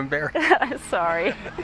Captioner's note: laughter